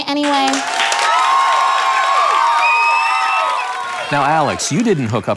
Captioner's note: audience cheers